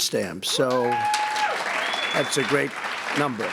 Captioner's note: applause